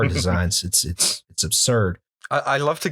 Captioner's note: laughter